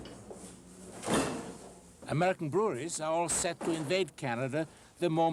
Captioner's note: bottles clinking